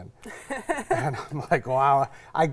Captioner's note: laughs